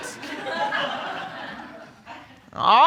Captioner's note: snickering from audience